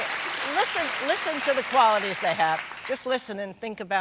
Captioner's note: cheers and applause